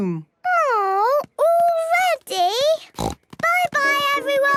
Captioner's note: snort